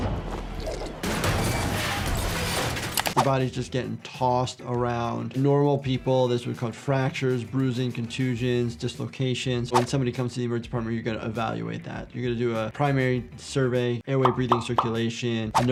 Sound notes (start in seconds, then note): 0.8 objects clattering